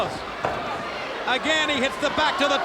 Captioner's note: Rick thudding into turnbuckle